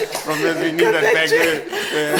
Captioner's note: everybody laughs